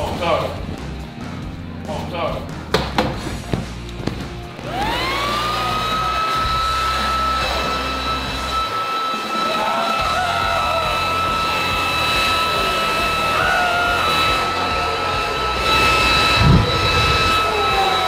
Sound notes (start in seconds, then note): 4.9 leaf blower engine revs; 9.0 screams; 12.6 crowd cheering